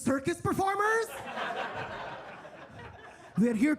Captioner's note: attendees laughing